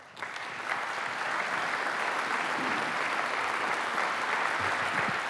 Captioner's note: applause